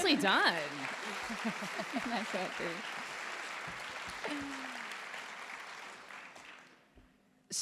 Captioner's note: applause